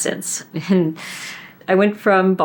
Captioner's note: laughs